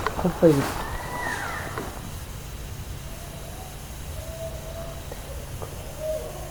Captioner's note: animal crying